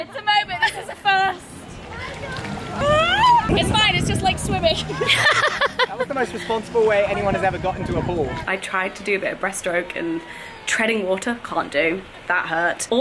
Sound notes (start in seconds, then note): 2.7 yelling; 4.8 laughing